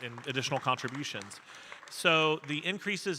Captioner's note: audience applauding